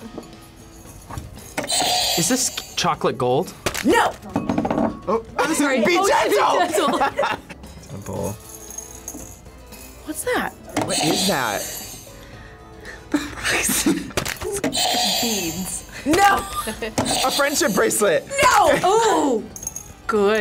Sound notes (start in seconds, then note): 1.6 buzzer rings; 6.4 both laugh; 10.9 buzzer rings; 13.0 laughs; 14.5 buzzer rings; 16.3 laughs; 17.2 buzzer rings